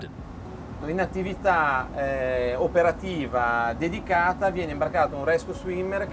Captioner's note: man speaking in foreign language